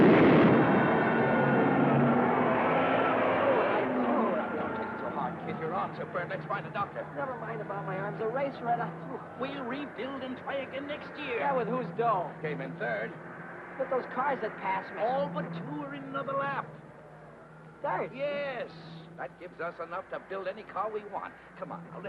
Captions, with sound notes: (explosion booming) (crowd cheering) (car revving) - Kid, your arms are burned. Let's find a doctor. - Never mind about my arms. The race went up too. - We rebuild and try again next year. - Yeah, with whose dough? - You came in third. - But those cars had passed me. - All but two were in another lap. - In third? - Yes. That gives us enough to build any car we want.